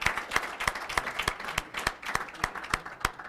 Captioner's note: applause